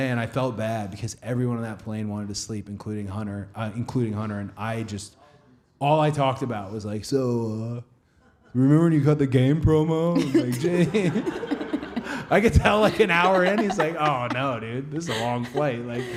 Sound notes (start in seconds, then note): 10.2 laughing